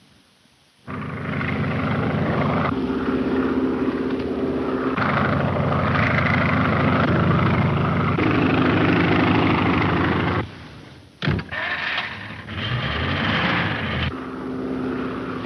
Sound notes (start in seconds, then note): 1.1 engine droning; 11.2 door thuds; 11.6 engine revving